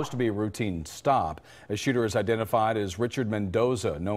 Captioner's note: gunfire